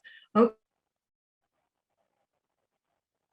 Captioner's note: sound cuts briefly